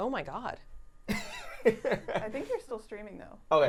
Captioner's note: chuckling